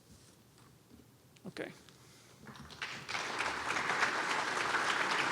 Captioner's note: applause